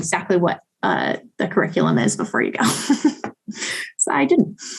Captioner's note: chuckling